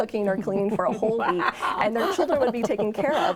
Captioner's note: chuckles